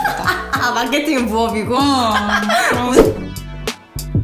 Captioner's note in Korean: 웃음